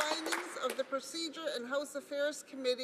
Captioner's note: cheers; applause